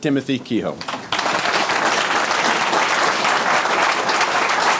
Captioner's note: audience applauding